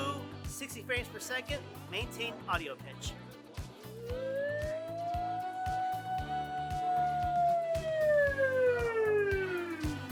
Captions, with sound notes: The Woo, 60 frames per second, maintain audio pitch. [escalating pitch] Woo!